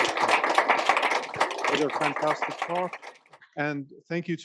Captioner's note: applause